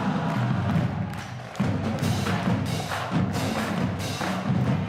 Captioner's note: applause